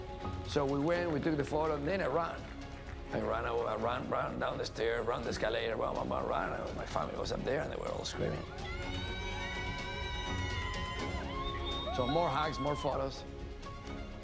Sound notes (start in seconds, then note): 8.4 cheering